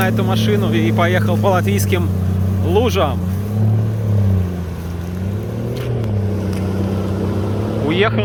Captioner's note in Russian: Звук мотора